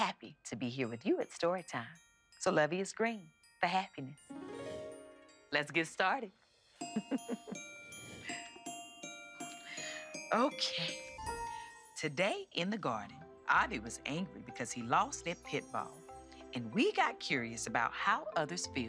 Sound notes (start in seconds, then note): 6.9 chuckles